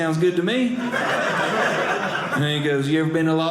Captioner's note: audience laughing